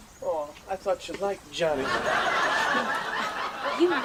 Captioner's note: audience laughing